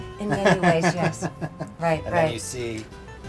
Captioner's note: laughs